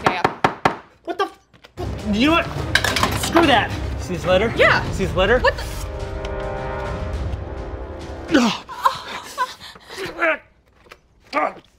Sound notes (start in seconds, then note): 0.2 egg taps on wood; 8.3 grunts